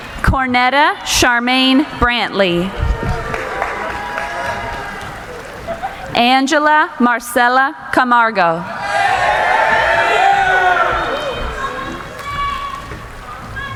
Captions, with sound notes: Cornetta Sharmaine Brantley. (applauding) Angela Marcella Camargo. (cheering)